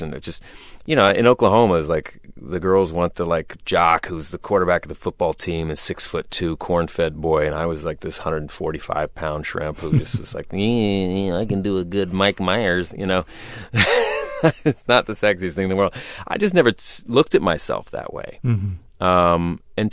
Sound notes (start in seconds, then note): 9.7 laughter; 11.0 murmuring; 13.7 laughter